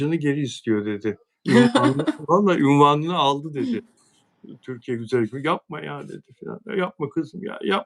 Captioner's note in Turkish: kahkaha